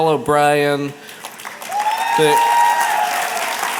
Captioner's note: applause